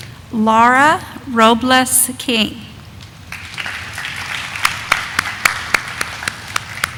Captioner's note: audience applauding